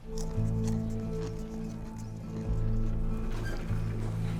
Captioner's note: chips crunches